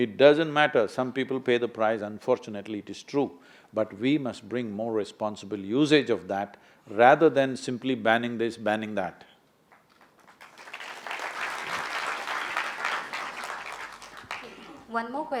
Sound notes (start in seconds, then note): 9.7 applause